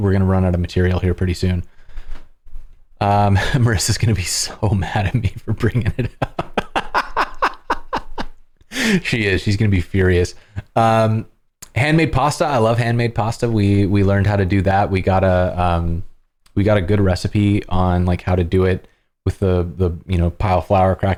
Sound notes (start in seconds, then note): 5.5 laughter